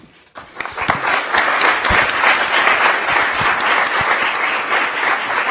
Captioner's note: attendees applauding